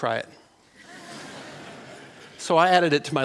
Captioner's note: laughter